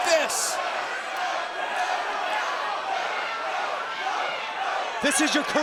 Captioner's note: crowd chants "No"